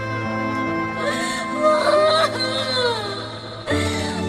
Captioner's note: Lia bawling